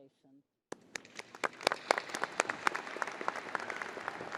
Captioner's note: crowd applauding